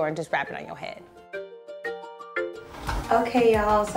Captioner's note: bright music; air whooshing